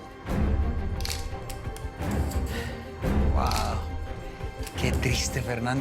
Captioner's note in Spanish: Ruido del disparador